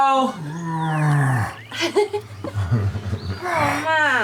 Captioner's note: groaning